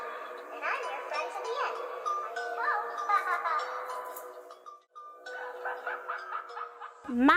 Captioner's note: laughs